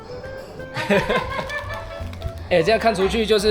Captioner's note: laughs